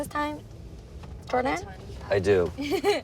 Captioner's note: laughs